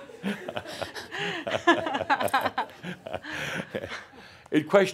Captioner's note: laughter; they chuckle